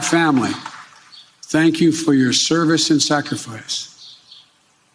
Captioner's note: cheers and applause